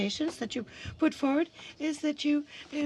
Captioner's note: speaking french